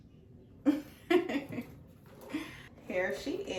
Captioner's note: laughs